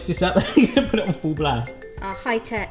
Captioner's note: laughs